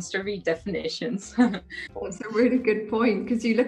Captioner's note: chuckles